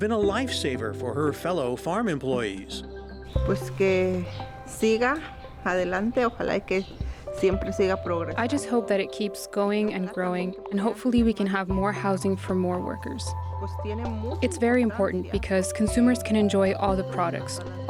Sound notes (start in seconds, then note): 3.3 speaks spanish